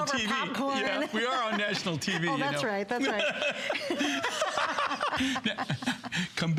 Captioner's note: laughter